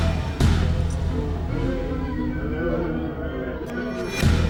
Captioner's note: moaning